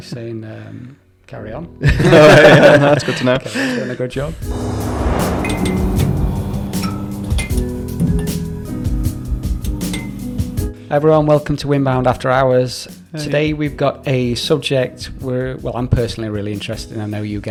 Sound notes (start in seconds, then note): 1.8 laughter